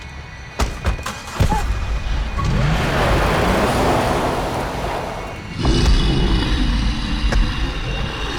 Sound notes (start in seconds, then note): 1.0 engine turns over; 5.5 growling